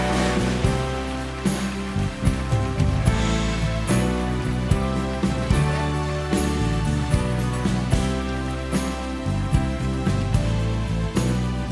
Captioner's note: applause